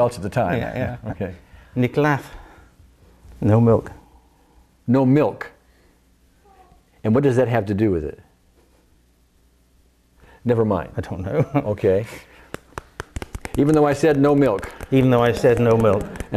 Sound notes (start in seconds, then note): 2.4 speaks in foreign language